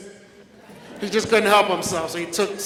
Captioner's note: audience laughs